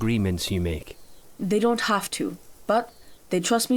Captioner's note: accented